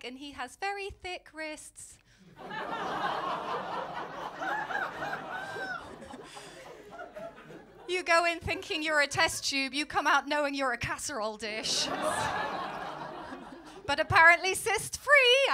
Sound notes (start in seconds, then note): 2.3 laughter; 11.6 laughter